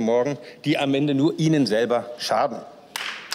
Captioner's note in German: Beifall